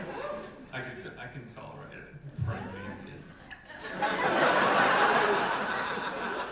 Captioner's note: audience laughter